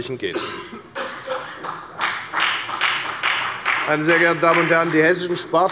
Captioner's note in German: Beifall bei der FDP und bei Abgeordneten der SPD